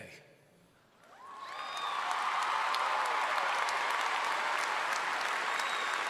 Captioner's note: audience cheers and applauds